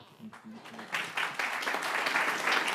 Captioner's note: applause